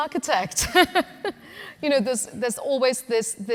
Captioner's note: laughing